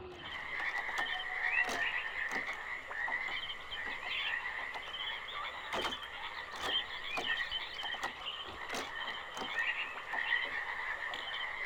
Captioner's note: frogs croaking, water slushing, birds chirping